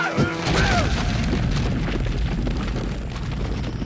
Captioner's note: dirt rumbling